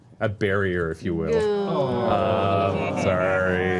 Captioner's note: groaning